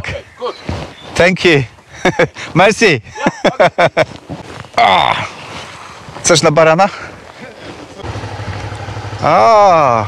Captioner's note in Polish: śmiech